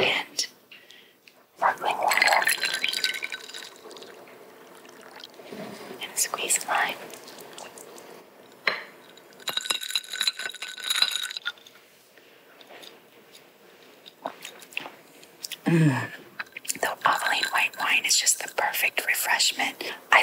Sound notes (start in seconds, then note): 9.0 clattering